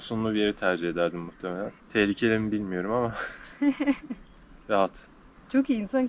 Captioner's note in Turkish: kahkaha